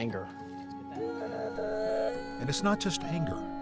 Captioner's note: boy Crying